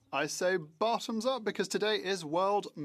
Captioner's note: speaking French